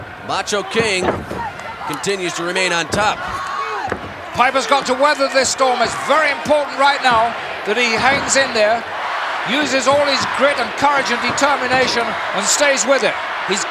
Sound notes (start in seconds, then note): 9.2 audience cheering